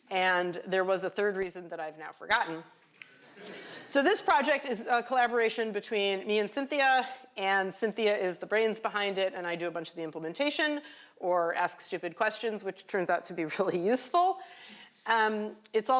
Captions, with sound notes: And there was a third reason that I've now forgotten. [LAUGHTER] So this project is a collaboration between me and Cynthia. And Cynthia is the brains behind it, and I do a bunch of the implementation or ask stupid questions, which turns out to be really useful.